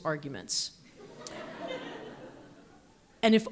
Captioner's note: audience laughs